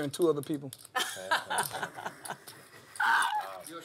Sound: laugh

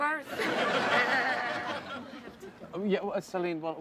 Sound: laughter

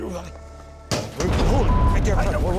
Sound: loud bang

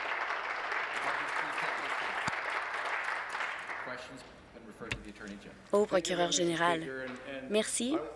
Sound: applause

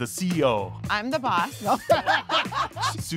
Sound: people laughing

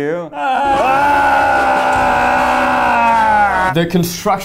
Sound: screaming

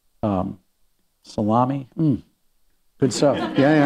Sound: laughter

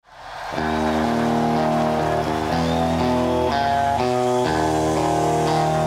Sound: crowd cheering; slow rock music

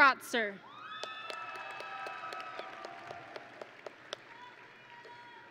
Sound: audience and graduates cheering

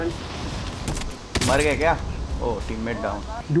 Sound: speaking foreign language

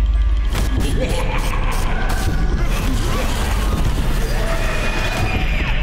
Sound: creepy music; evil laughing; distant screaming

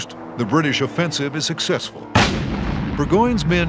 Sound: gunshot

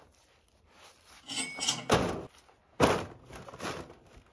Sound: cashier sound

